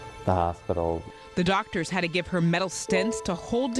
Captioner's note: voiceover